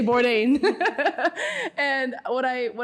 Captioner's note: laughs